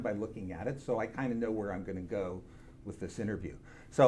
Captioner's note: none